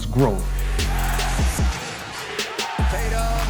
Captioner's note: audience cheering